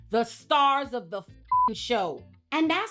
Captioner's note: beep